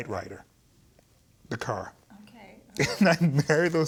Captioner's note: laughing